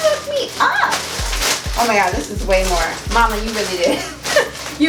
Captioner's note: laughs